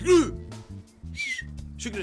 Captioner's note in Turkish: islik sesi̇